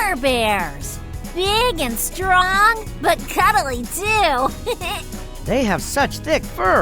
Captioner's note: giggling